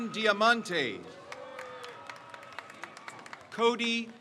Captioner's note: crowd cheers